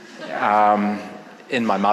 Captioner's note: audience laughing